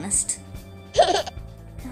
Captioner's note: baby giggles